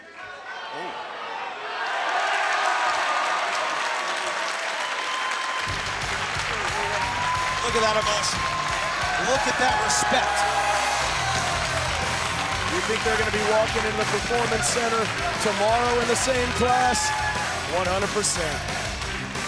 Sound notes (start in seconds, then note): 1.9 crowd cheers and applauds; 5.8 upbeat ska music